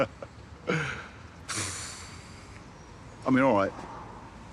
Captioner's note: he chuckles; he exhales